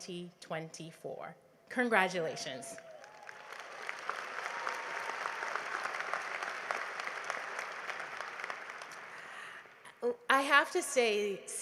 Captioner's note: applause